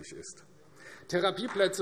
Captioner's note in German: Beifall AfD